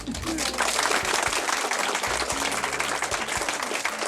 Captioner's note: crowd applauds